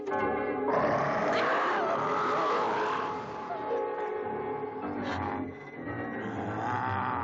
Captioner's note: Priscilla screams; werewolf snarling